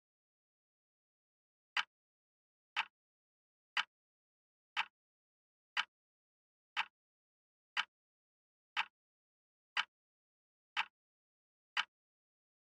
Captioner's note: tick